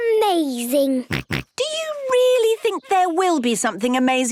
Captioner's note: snorts